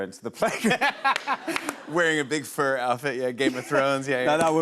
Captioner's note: laughter